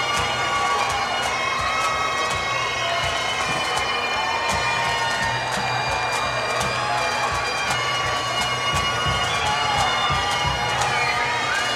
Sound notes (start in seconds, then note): 2.8 cheers and Applause